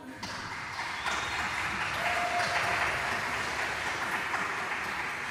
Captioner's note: cheering